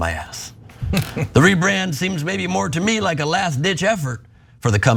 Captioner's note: laugh